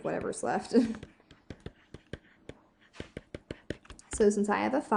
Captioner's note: pencil scratching